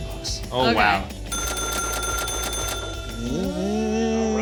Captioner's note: cash register dings; humming